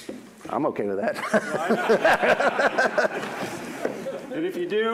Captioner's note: laughs